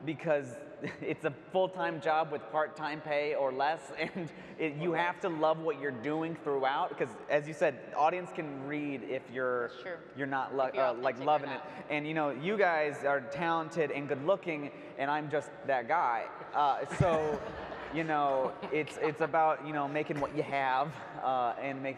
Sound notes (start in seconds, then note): 16.8 audience laughs